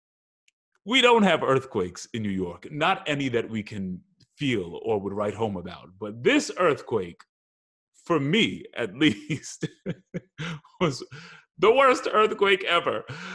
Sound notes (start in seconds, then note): 9.1 laughs